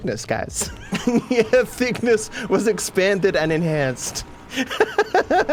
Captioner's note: laughing; laughs